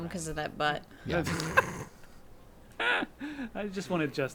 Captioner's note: group laughing